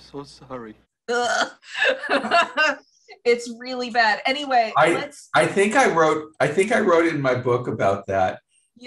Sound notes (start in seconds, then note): 1.7 laughter